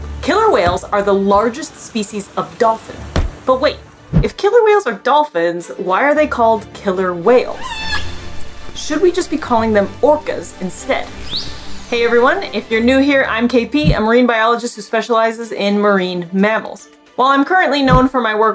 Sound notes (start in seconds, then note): 7.4 whale vocalization; 7.7 background music; 10.7 whale vocalization; 11.1 background music